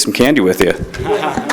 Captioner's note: applause